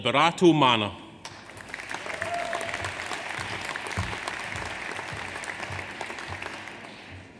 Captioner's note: audience applauds; audience cheers